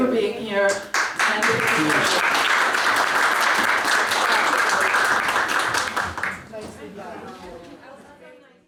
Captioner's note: applause